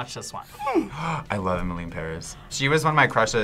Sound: gasps

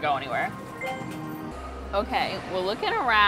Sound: screen chimes

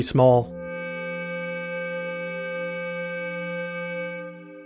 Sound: computer Generated Sound

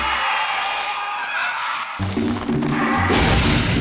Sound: dragon growls

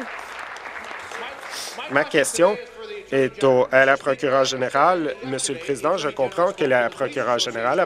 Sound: applause

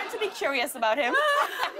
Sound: laughter

